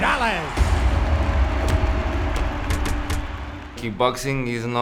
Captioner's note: punch and kick sounds